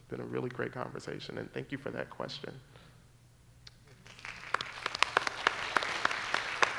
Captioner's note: applause